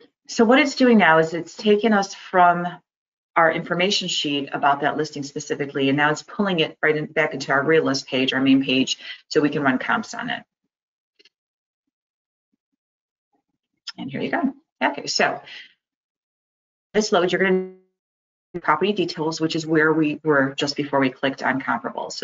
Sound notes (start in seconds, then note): 17.3 sound cut out